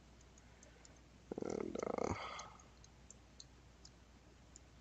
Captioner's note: mouse clicking